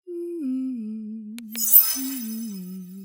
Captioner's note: hums; whimsical music